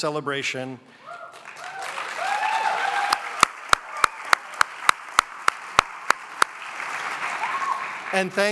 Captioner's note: cheering and applause